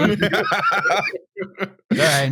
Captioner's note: laughter